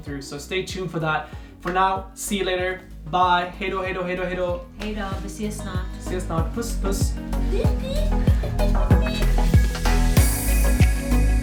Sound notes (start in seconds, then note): 3.9 speaking Swedish; 8.6 upbeat music